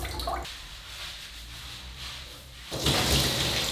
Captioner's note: water dripping; hair scrubbing; water pouring